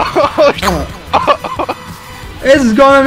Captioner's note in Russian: Захлёбывается от смеха